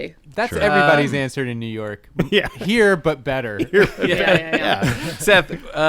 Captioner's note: laughter